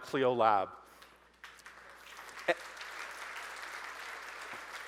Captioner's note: audience applauding